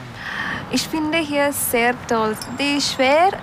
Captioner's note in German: Sie spricht Deutsch